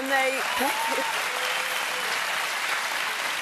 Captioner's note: applause